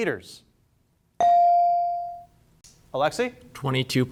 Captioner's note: bell sounding